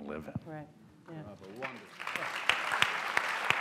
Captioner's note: applause